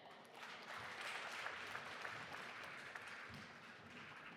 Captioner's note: audience applauding